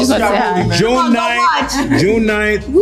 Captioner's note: overlapping chatter